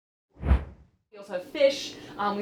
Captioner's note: air whooshing